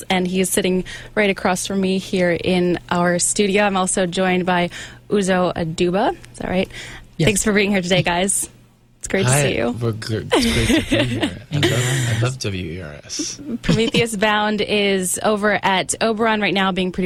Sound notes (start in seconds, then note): 10.3 interviewer laughs; 13.2 laughter